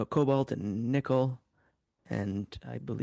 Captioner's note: speaking in French